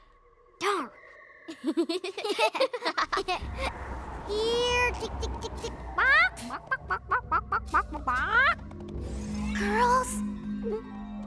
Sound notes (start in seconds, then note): 1.5 both laughing; 5.9 clucking; 10.2 gulps